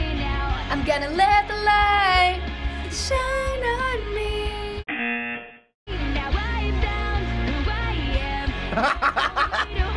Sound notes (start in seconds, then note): 0.2 singing along; 4.5 buzzer; 8.6 laughing